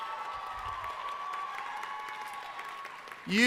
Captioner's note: cheering